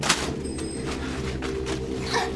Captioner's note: metal clinking